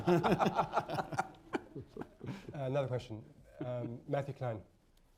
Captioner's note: laughter